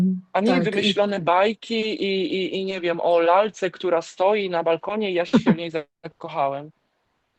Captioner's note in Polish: śmiech